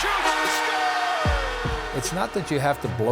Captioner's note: goal horn blowing